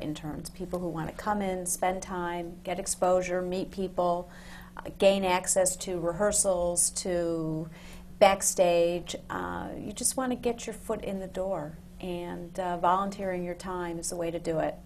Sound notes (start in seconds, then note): none